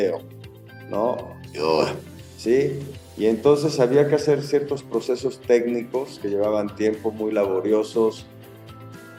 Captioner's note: groan